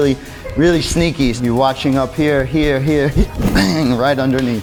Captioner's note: grunting